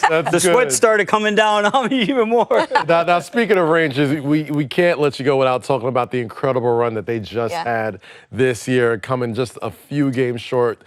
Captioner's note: laughter